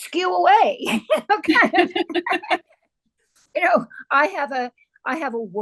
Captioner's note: laughter